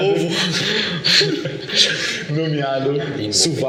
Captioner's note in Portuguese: Risadas